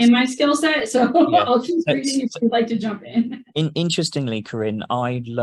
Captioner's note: laughing